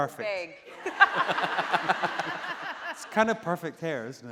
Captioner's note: laughing